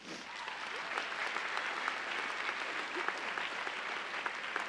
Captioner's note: audience applauding